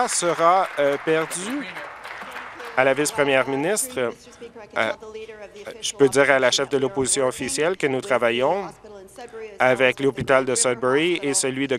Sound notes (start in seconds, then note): 2.2 applause